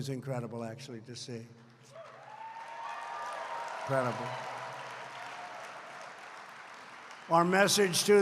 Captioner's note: applause